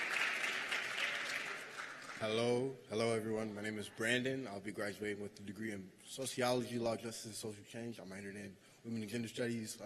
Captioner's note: cheers and applause